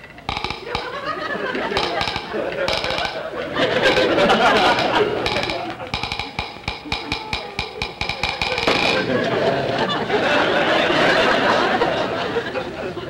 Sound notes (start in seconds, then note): 0.0 ladder creaking; 3.6 audience laughter; 5.5 ladder creaking; 8.5 audience laughter